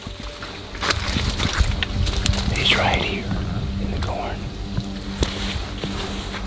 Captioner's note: whisper